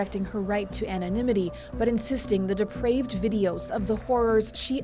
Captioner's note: applause